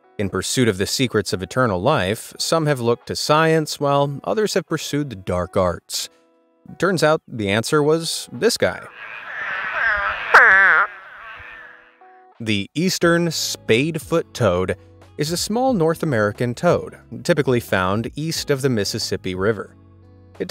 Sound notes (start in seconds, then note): 8.8 frog croaking